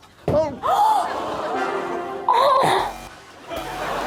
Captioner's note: Rosie gasps; Rosie moans